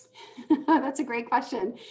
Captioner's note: laughing